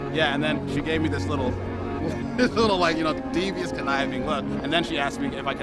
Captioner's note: laugh